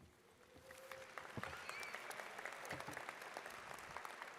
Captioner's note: audience claps